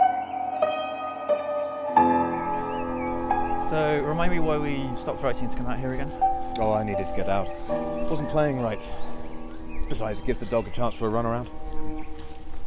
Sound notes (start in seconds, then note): none